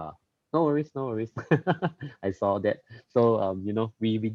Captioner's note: laughs